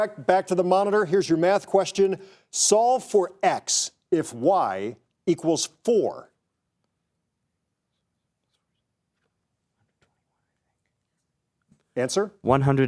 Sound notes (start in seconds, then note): 8.0 contestants whispering